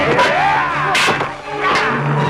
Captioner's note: man roars